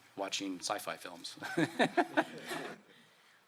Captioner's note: laughter